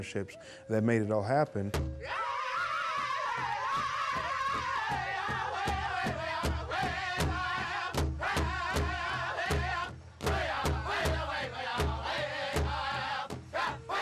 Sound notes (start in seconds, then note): 4.5 all chanting